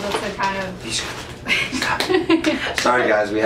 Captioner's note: rummaging around; laughs; claps